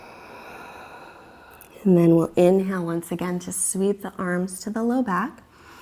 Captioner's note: deep breathing sounds